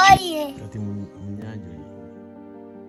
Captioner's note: child and man voices